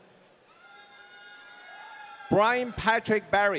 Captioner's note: audience cheering